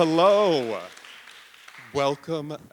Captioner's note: audience applauding